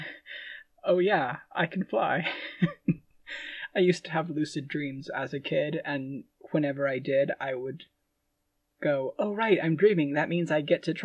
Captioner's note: laughing